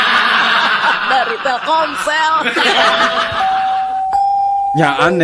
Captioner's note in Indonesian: tertawa